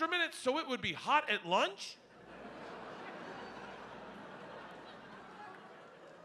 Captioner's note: audience laughing